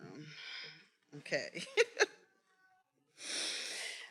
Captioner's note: laughs